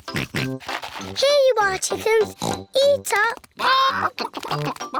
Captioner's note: oinks